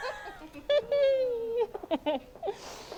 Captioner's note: both giggle